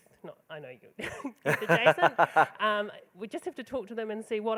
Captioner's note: laughing